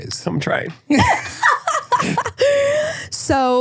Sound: laughs

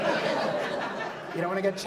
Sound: audience laughs

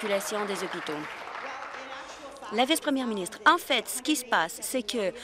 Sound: applause

